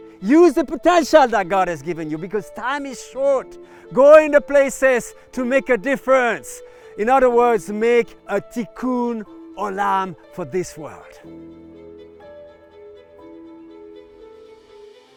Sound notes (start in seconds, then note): 8.4 speaking in foreign language; 11.2 mellow music